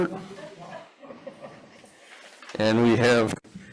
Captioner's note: people laugh